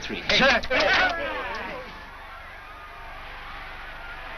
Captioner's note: players yell